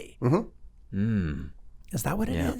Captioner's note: hum in agreement